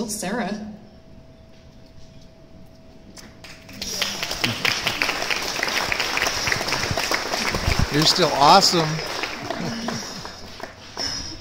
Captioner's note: audience Clapping-- shouts, "You're still awesome!"